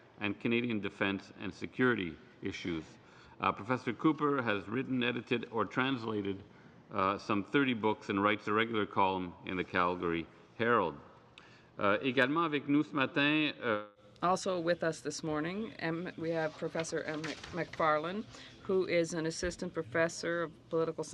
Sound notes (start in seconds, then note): 15.3 speaking French